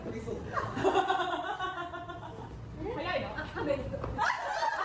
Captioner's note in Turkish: kahkaha